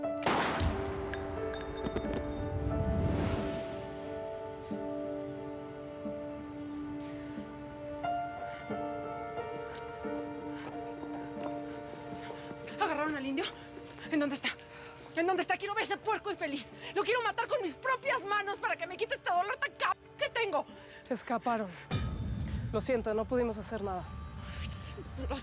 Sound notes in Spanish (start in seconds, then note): 6.9 sollozos ahogados